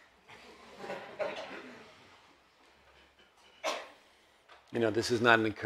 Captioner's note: audience laughs